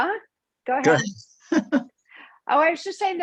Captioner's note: chuckles